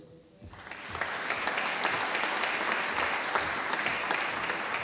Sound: audience applauding

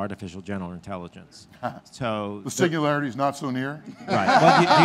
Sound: laughing

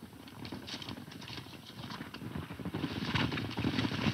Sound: running hoof beats

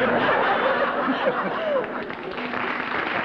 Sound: laughter; applause

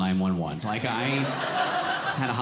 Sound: audience laughing

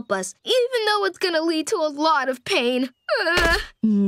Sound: groaning

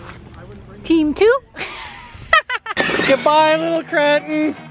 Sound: laughing

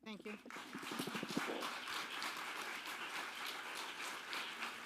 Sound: audience applauding

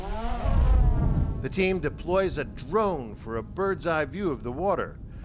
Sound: voice-over

